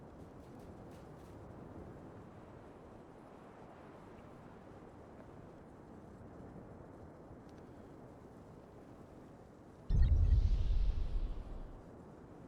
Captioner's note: gunshots